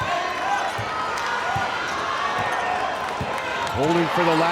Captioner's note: crowd cheers